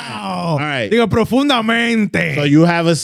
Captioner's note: speaking Spanish